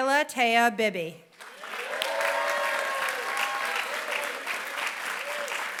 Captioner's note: applause